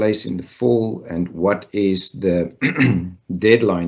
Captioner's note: clear throat